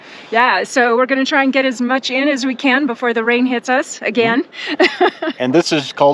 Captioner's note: laughter